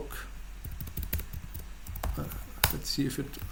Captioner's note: typing